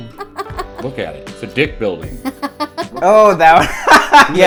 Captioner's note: laughter; laughs; laughter